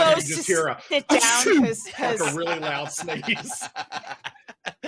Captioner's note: laughing